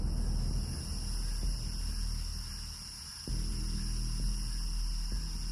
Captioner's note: insects buzzing; intense music